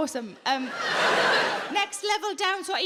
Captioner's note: audience laughing